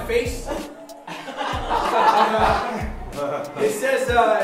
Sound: laughing

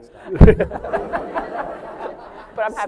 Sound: laughter

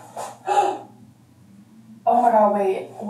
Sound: gasps

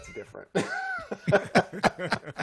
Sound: laughter

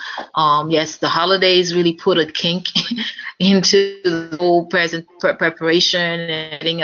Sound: laugh

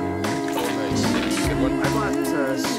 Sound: background conversations

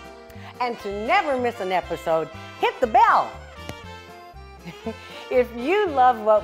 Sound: laughs

